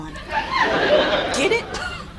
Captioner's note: audience laughs